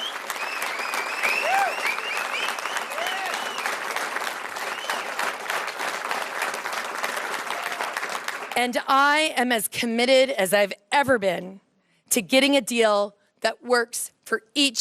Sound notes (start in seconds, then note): 3.1 cheers & Applause